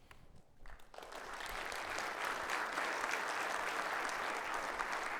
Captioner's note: audience applauds